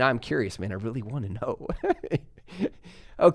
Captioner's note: laughs